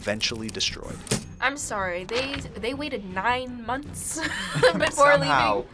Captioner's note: laughs